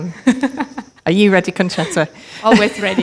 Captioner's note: laughing; laughs